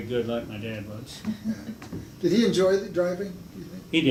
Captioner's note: laughs